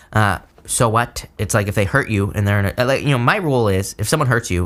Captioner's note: stammers